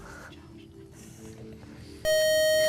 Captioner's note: buzzer